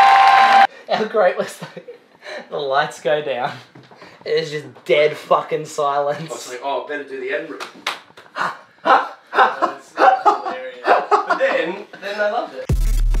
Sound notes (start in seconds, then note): 0.0 applause; 7.6 clap clap clap; 12.7 electro music